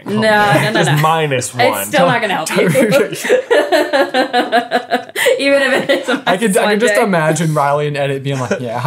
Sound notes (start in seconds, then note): 1.7 laughing